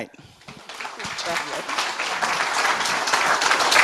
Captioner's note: applause